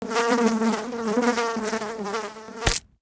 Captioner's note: fly buzzing; fly splatting